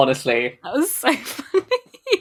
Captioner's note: laughing